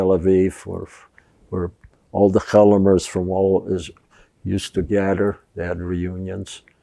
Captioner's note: hebrew